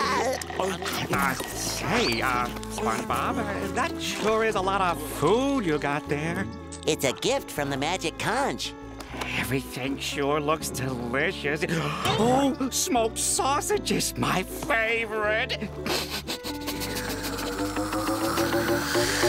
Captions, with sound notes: [laughing] Uh hey, SpongeBob, that sure is a lot of food you got there. It's a gift from the magic conch. Everything sure looks delicious. Oh, smoked sausages, my favorite! [sniffing]